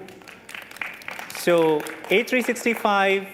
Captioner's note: applause